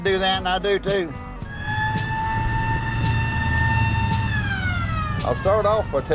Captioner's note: old police siren wailing